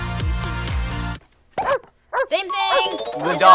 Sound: barking

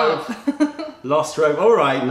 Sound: laughter

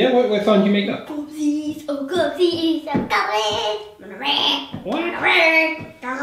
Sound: growling

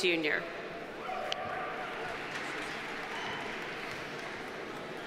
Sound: audience applauding

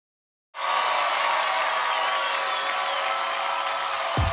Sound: applause

